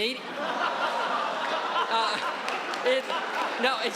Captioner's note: audience laughing